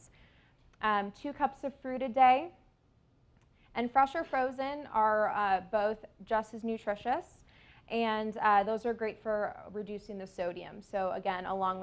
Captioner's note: intake